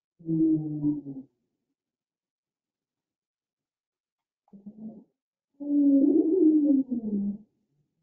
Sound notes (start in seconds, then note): 1.2 low pitched gargling and moaning